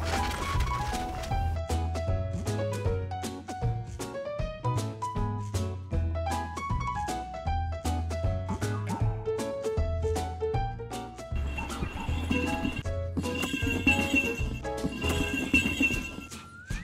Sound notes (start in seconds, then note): 9.2 bright playful music continues; 11.3 bells jingling